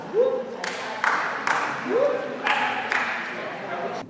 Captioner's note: attendee clapping